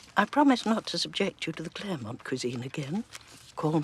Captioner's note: none